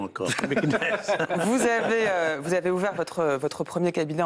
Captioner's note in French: ils rient